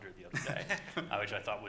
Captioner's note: laughing